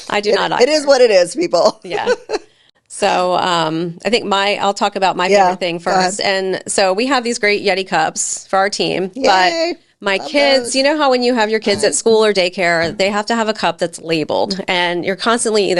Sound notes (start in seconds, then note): 1.4 laughing